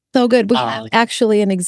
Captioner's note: laughing